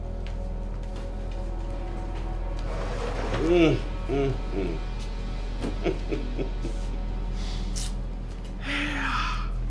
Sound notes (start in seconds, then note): 1.7 tense music; 5.0 person laughing